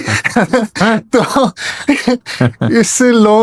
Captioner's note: laughter